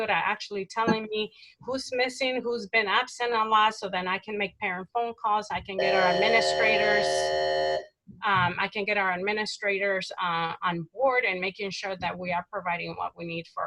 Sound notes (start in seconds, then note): 5.8 electronic interference